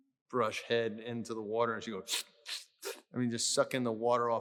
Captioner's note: slurping